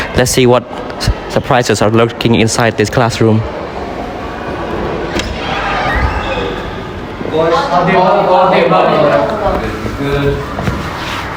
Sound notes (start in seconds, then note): 5.1 door opens